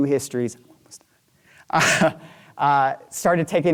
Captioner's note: chuckling